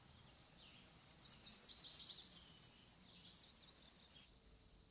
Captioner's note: birds chirping